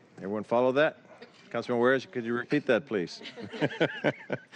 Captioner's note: laughter